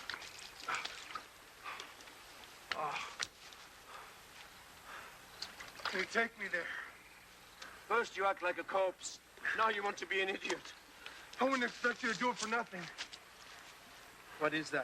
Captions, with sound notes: (Dan moaning) - Can you take me there? - First you act like a corpse now you want to be an idiot. - I wouldn't expect you do it for nothing.